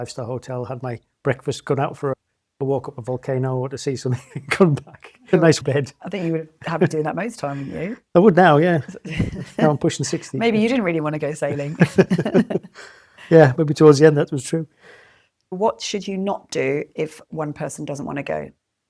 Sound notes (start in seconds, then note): 4.1 laughs; 8.6 laughs